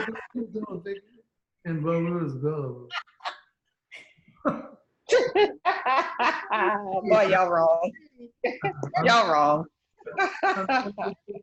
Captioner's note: laughter